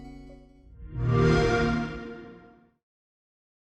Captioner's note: xbox sound